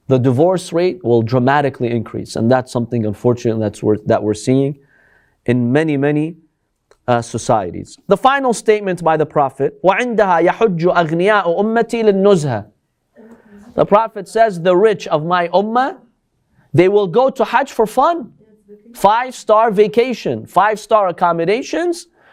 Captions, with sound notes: The divorce rate will dramatically increase and that's something unfortunate that we're seeing in many, many societies. The final statement by the Prophet, [Arabic] The Prophet says, the rich of my ummah, They will go to Hajj for fun. Five star vacation, five star accommodations.